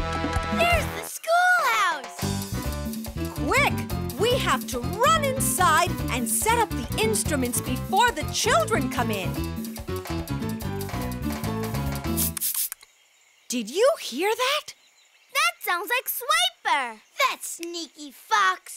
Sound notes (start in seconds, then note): 11.8 swooshing